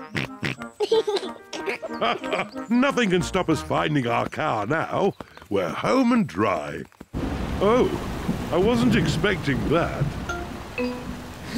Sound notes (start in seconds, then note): 0.1 snorts and giggles; 3.2 laughs